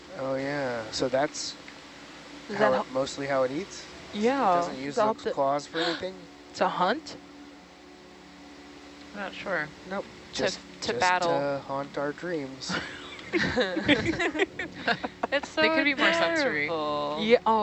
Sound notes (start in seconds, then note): 12.6 speakers laughing